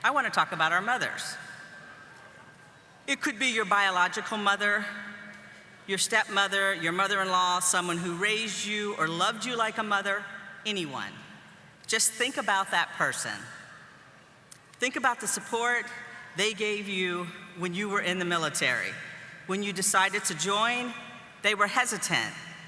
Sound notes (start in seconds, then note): none